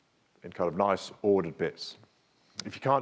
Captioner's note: speaks faintly